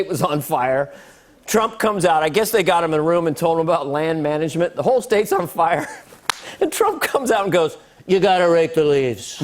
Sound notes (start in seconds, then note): 5.8 laughs